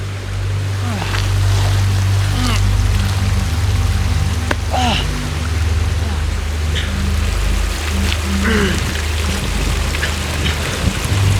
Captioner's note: groaning